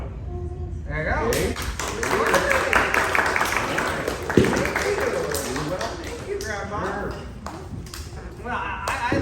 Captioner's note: applause